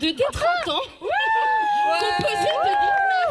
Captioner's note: cheers